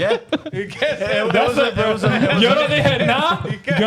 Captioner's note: speaking In Foreign Language